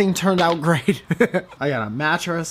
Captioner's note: chuckles